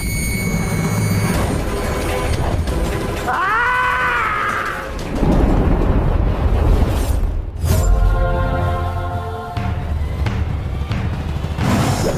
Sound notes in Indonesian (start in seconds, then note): 3.2 berteriak